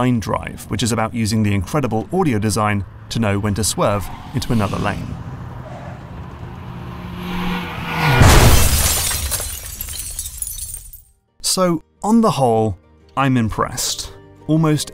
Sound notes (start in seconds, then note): 5.5 car sounds; 6.4 crash; 7.7 horn; 8.2 broken Glass